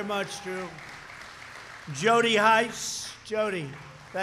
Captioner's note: applause